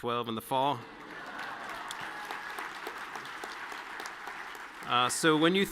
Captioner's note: audience cheering and clapping